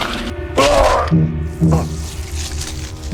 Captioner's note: groaning in pain